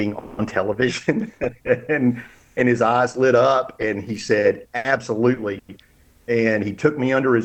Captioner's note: laughs